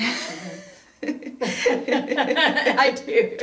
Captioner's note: laughing